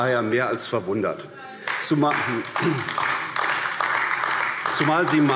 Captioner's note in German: Beifall AfD - Zurufe